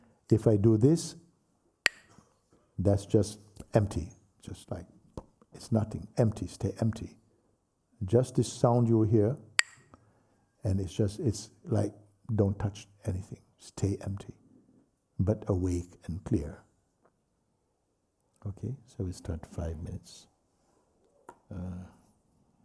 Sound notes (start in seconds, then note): 1.8 clacks the sticks; 5.0 pop; 9.6 clacks the sticks